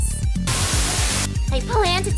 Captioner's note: Static